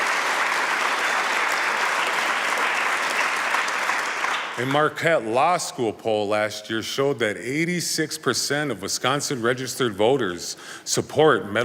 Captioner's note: applause